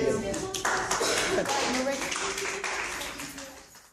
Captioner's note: applause